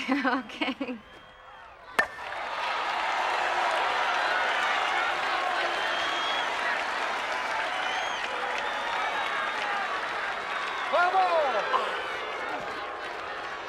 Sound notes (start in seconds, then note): 1.8 bat striking ball; 2.8 crowd cheering